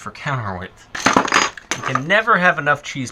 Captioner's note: metallic clattering